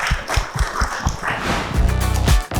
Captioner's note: audience claps; interstitial whooshing; upbeat electronic music